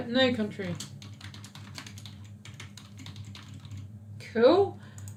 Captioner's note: keyboard clicks